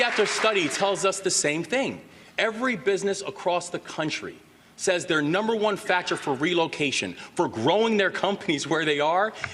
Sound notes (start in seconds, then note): 0.0 applause